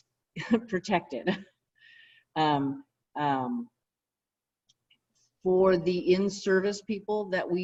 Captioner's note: laughter